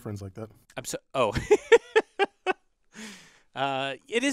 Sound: laugh

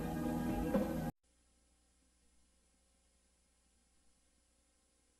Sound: VHS static

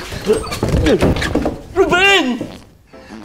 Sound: door slams; farting

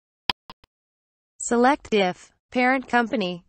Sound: click sound

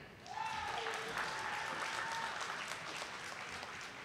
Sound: audience applauding

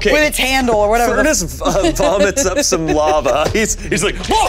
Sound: laughing

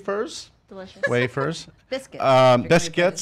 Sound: laughing

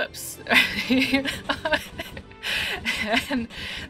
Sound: laughing

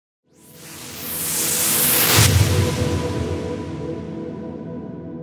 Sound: whooshing

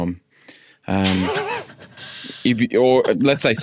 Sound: others wheezing

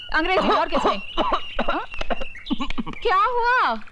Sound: coughs

